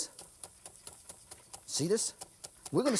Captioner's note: chopping